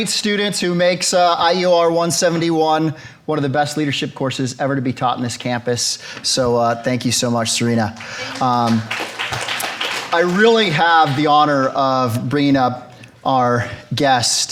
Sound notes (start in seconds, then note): 7.9 audience applauds